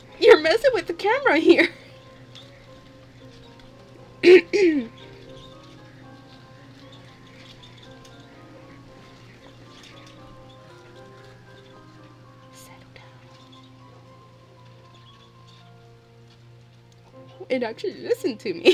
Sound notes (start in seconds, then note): 6.1 wind keeps going; 12.6 whisper